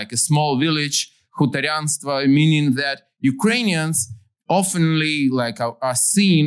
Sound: non-english

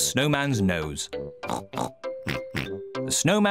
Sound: both snort

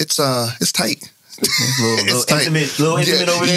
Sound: laughing

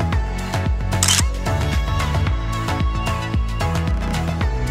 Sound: camera clicks

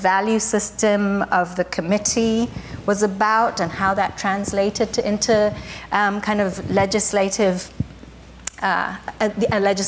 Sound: none

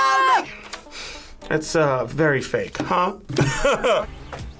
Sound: laughs

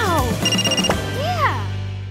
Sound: ringing

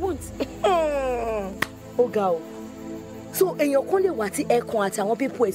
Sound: speaking in foreign language

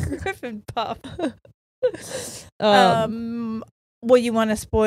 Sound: laughing

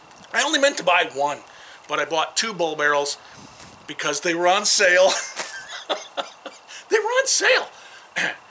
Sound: laughter

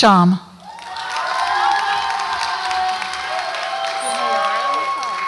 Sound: audience applauds and cheers

